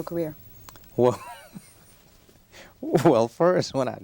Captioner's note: chuckles